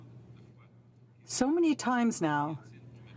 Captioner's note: speaking french